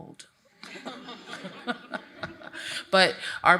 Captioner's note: laughs